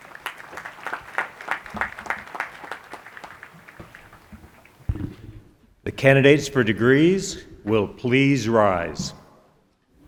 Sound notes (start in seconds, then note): 5.8 applause